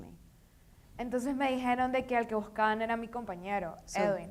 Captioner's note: speaking in foreign language